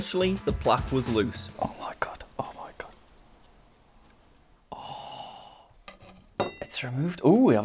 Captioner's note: whispering